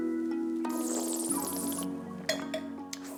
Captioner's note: slurps